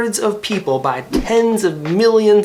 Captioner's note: graphics whoosh